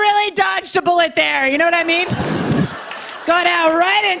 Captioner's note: laughter